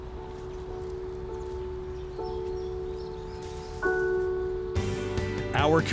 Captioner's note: birds chirping; gentle music; lively music